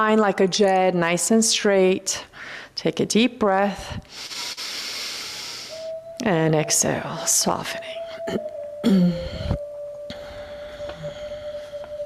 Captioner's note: clears throat